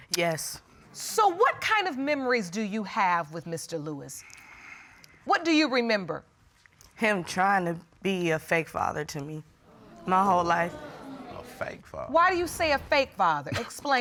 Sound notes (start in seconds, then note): 9.7 audience exclaiming